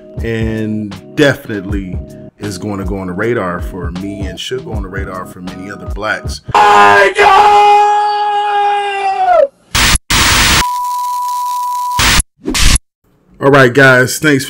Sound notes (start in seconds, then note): 6.7 man shouting